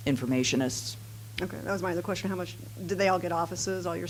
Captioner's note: voiceover